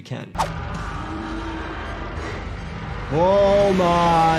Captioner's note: scene whooshes; ominous mechanical sounds